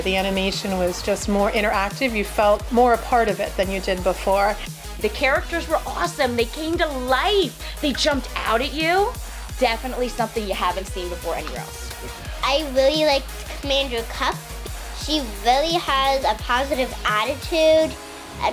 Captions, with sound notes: The animation was just more interactive. You felt more a part of it than you did before - The characters were awesome, they came to light, they jumped out at you, definitely something you haven't seen before anywhere else. - I really like (murmurs) he really has a positive attitude